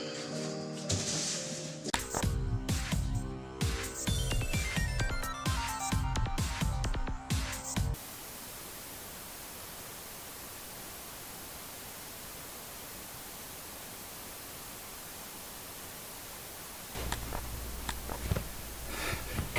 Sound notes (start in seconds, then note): 0.3 piano music; 8.3 white noise; 17.0 sighs